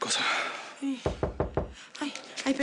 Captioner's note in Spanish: Toques en la puerta